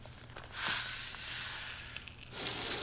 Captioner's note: grain being poured